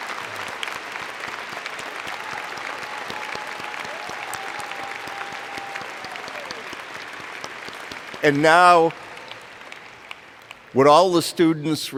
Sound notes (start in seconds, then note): 0.0 cheers and Applause